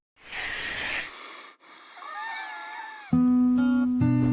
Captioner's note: curtains drawing; fatigued wheeze